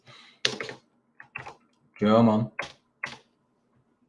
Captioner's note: keyboard clacking